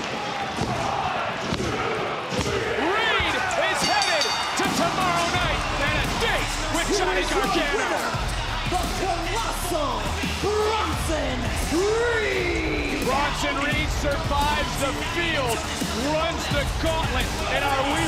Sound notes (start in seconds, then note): 3.7 bell rings